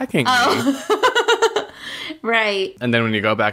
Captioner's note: laughs